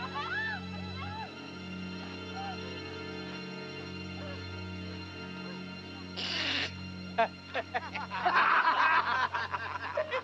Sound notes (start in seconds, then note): 7.1 laughing